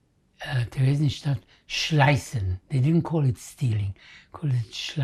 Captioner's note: german